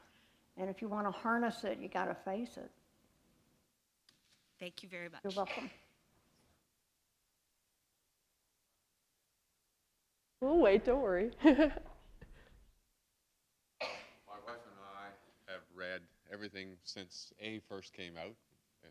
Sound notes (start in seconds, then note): 5.1 chuckle